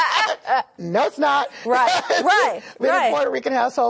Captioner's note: laughter